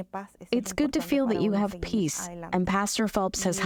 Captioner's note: through translator